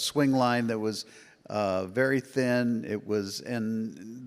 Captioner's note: none